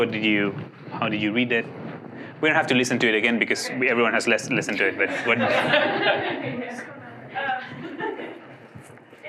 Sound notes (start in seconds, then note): 5.1 laughing